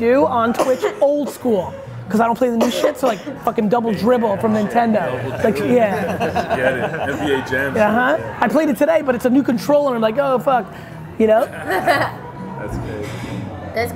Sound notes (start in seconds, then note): 6.6 guys laugh; 11.4 laughs